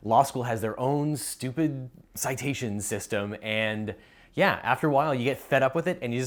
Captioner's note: none